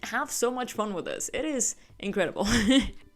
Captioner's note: laughs